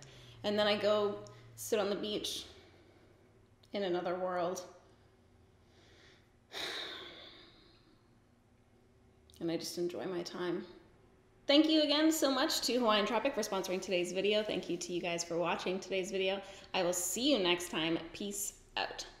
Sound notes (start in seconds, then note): 6.5 sighs